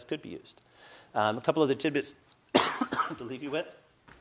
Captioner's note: coughs